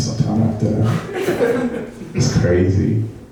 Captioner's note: laughing